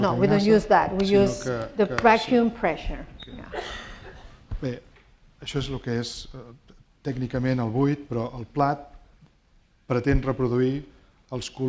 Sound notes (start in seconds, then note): 5.2 speaking spanish